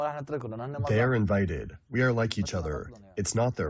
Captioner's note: through translator